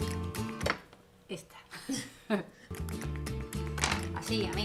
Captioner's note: laughs